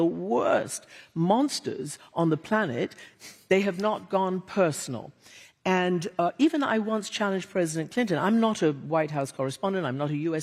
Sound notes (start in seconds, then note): none